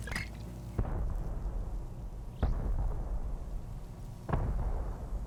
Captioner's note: explosions in distance